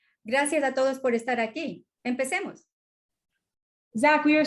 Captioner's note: speaking spanish